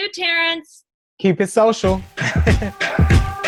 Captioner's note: chuckles